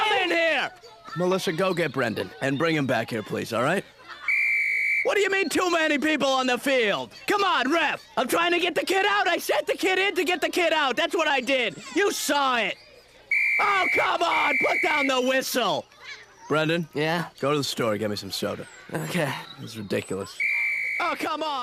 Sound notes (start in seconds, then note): 4.2 whistle blows